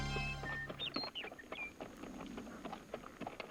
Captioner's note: birds chirping